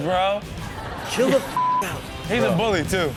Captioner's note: audience laughs; beep